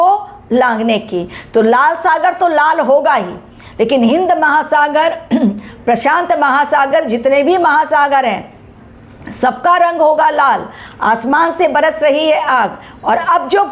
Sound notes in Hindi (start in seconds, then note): 5.2 गला साफ़ करने की आवाज़